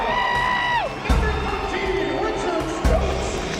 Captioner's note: cheering